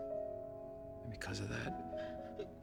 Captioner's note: buzz sobbing